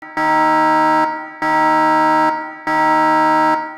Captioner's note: siren blaring